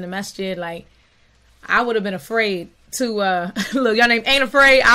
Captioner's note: chuckling